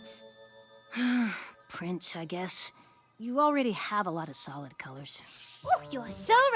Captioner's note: sigh